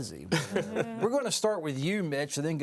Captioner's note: laughing